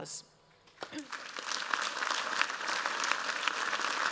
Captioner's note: applause